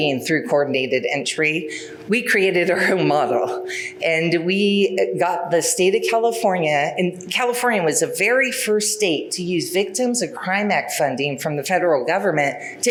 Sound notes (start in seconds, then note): none